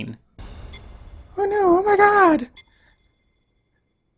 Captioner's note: in an annoying mocking voice